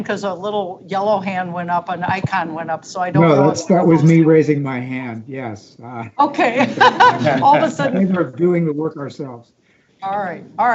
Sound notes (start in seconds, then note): 6.4 board members laughing